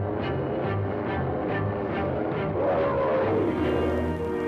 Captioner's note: roaring